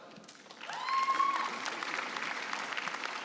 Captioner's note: applause